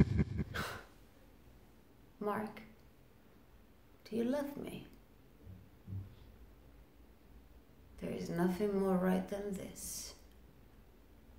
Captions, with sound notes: (Sherry chuckles) - Mark. Do you love me? There is nothing more right than this.